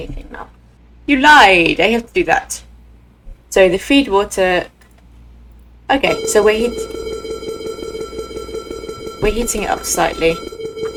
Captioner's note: alarm beeping